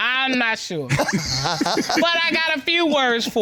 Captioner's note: both laugh